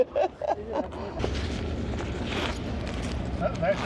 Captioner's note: laughter